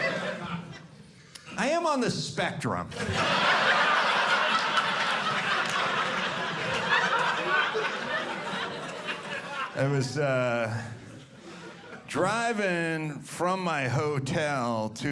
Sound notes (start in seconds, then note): 2.9 audience laughing